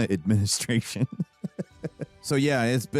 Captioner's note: chuckling